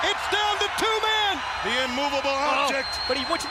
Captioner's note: crowd cheering